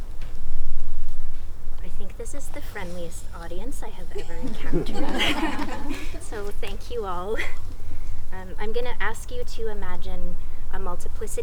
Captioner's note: crowd laughing